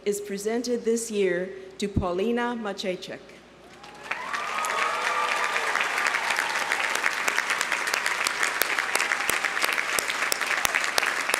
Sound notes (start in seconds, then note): 3.7 audience applauding; 3.7 audience cheering